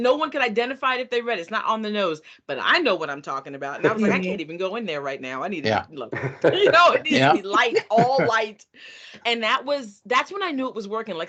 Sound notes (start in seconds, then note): 3.8 chuckling; 6.1 chuckling